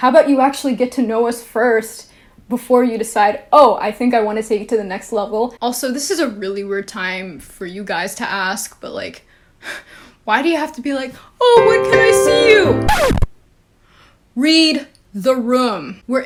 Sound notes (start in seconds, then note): 11.5 sad piano music; 12.6 record scratch